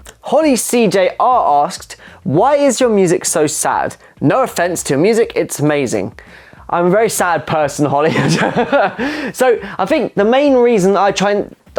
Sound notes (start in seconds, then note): 8.1 laughs